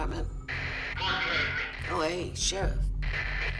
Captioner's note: static